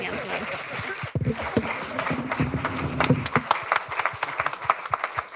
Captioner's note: applause